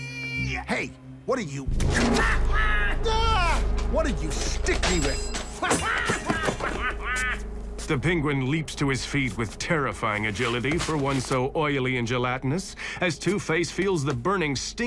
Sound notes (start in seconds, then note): 2.0 quacking laughter; 4.2 objects clatter; 5.7 cackles